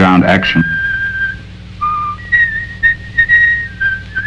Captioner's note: whistling